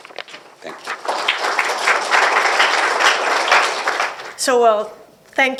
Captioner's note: applause